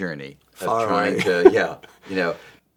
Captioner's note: chuckles